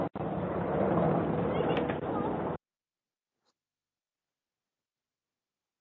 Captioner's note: people chattering